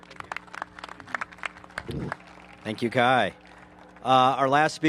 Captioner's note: applause